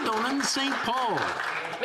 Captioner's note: some Applause